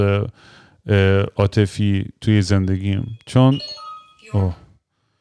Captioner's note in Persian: صدای آلارم